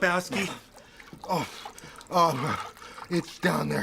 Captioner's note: Lebowski catches breath